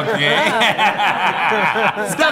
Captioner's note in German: Lachen